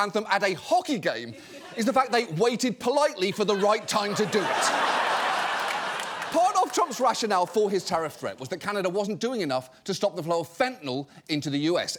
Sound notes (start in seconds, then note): 4.8 audience laughing